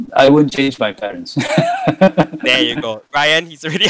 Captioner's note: laughing